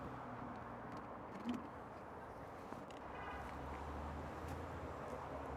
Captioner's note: traffic sounds and cars honking